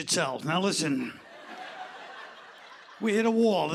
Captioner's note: laughter